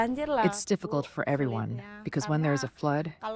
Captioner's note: through translator